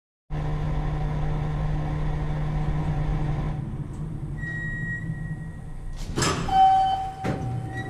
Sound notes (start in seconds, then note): 0.4 fan blowing air